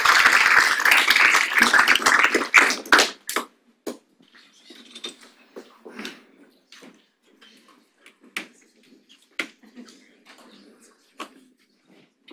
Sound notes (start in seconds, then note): 6.6 audience chattering faintly